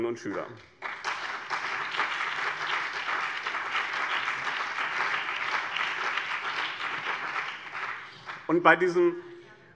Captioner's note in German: Beifall BÜNDNIS 90/DIE GRÜNEN und CDU